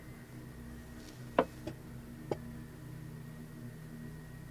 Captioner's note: jar tapping